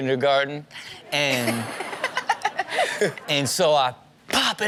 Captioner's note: Chanel laughs